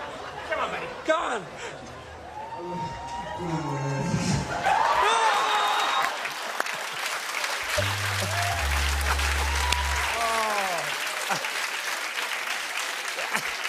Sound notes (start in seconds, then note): 4.2 cheers and applause; 7.7 sad tuba plays